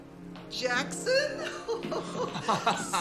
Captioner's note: laughing